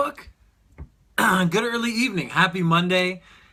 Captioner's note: clears throat